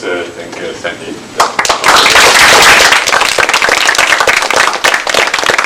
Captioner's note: applause